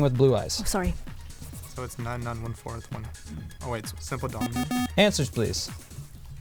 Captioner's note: wispering